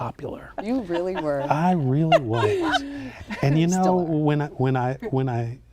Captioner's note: laughing